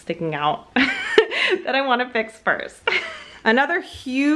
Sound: laughs

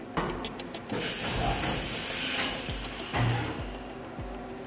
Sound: hissing air

